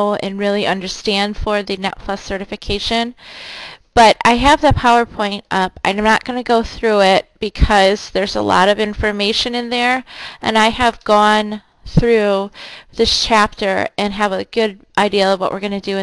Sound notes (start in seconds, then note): none